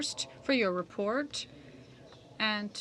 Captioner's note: speaking French